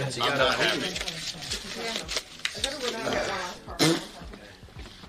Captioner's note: paper rustling; Ludwig blows raspberry